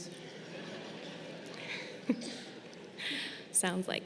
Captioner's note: graduates laughing